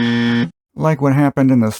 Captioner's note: harsh buzzer